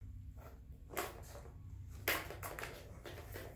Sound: rolling ball sounds

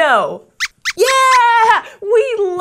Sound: squeaks squeaks

